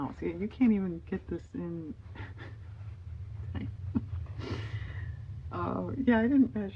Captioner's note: laughs